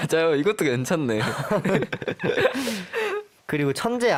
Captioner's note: tertawa